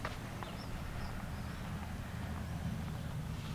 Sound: birds chirping

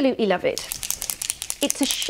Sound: metal bearing bounces in can

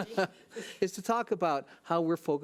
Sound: laughs

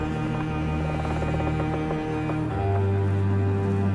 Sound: boat creaks

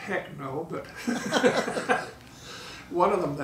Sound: laughing

